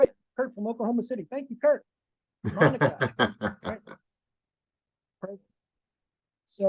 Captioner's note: laughing